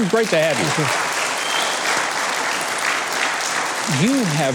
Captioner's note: audience applauds